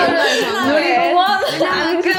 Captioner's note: hahaha